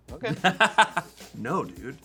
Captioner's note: laughing